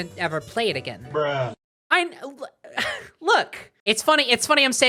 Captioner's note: exasperated sigh